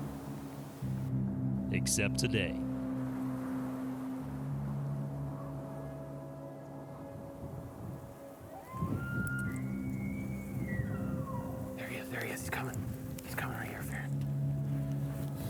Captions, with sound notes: Except today. (soft dramatic music) (elk bugles) - There he is, there he is, he's comin'. He's comin' right here.